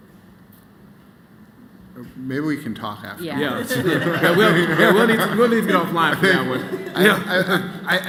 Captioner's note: laughter